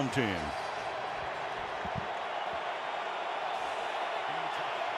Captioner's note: cheering